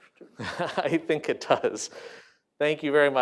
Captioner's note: laughter